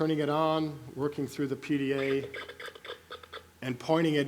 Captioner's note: gadget noises